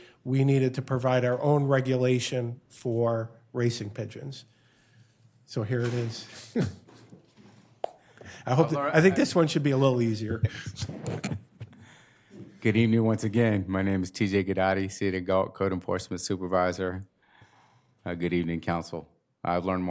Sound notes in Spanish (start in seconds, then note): 10.3 risas